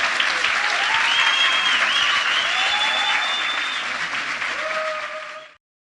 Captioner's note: applause